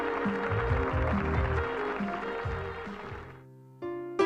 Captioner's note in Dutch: publiek klapt